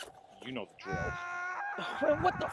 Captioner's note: man screaming